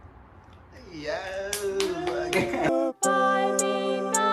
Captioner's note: person cheering; claps